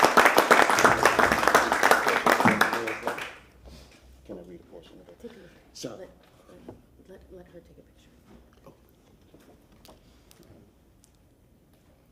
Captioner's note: applause